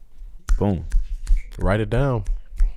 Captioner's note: snapping